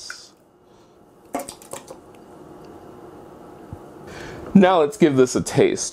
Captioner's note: pouring sounds